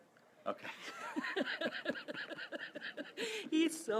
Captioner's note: laughing